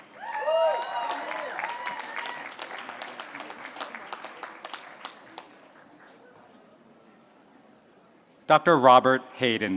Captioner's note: applause